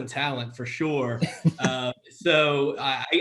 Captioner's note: both laughs